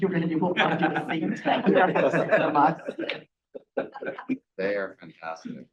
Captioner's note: board members laughing